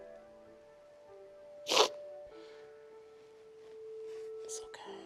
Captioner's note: sniffles